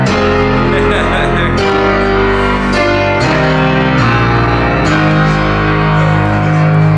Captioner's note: laughing